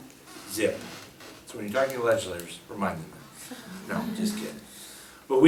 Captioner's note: laughs